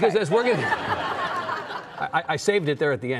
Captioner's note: audience laughing